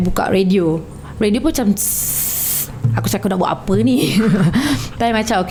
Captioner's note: sssss